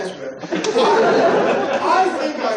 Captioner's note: laughter